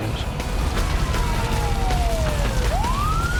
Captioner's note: sirens